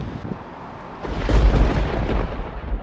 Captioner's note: thunderstorm